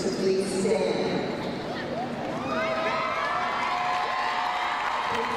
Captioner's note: crowd cheering